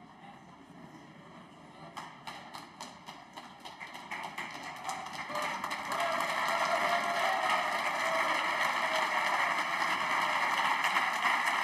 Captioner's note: applause